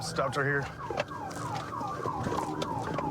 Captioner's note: sirens blaring